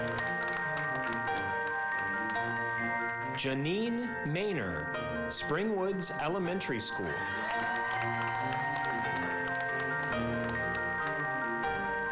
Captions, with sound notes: (slow upbeat music) Janeene Mainor, Springwoods Elementary School. (audience applauding) (slow upbeat music)